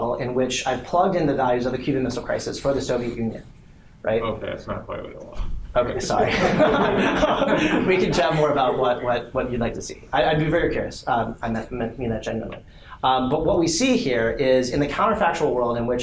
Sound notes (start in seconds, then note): 6.2 laughter